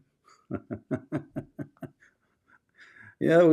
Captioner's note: Ketawa